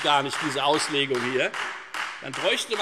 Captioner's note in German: Beifall Freie Demokraten